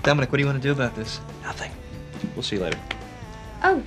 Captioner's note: whispering